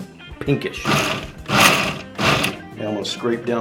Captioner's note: blender pulsing